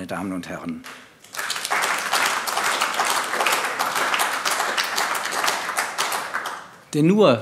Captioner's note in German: Beifall AfD